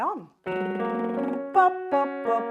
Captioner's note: slow piano music; lip trilling